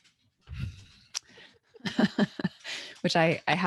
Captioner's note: both laughing